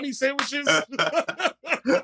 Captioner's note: laughter